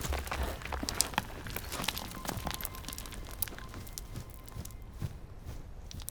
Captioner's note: rocks falling